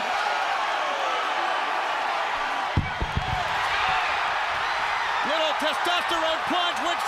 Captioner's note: crowd cheering